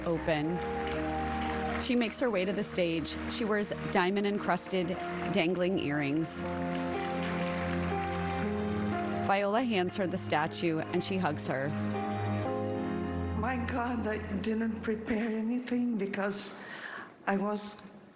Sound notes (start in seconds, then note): 5.3 applause